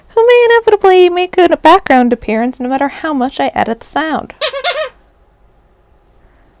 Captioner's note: toy squeaks